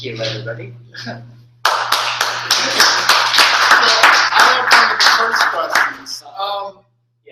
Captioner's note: applause